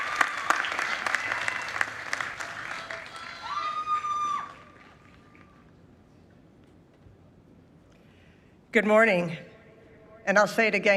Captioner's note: applause